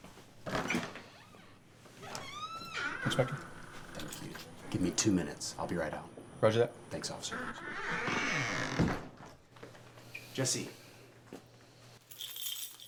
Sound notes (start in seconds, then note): 7.1 door screeches close